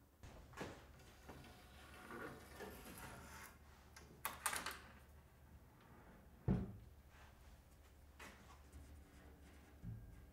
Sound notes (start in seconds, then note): none